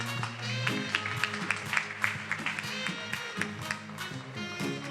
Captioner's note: attendees applauding; upbeat music